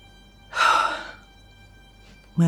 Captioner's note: sigh